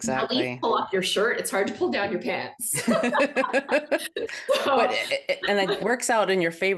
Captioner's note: both laugh